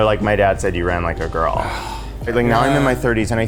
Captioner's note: sighing